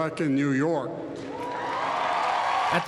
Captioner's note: cheering and applause